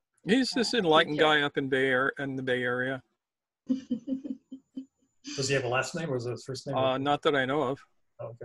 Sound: laughs

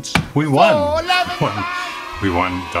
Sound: crowd cheers loudly

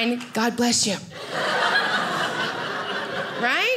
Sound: audience laughing

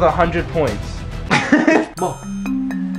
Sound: laughter

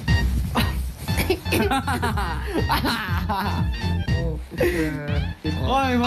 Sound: laughing like kid

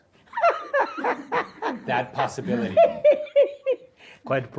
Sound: laughter

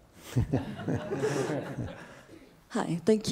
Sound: audience and panelists laughing

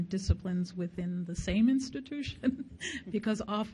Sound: laughs

